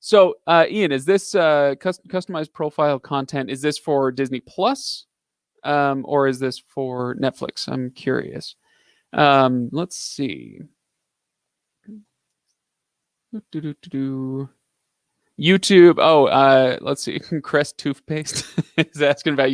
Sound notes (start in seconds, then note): 12.7 vocalizing; 18.2 giggling